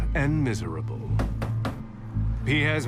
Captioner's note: knocking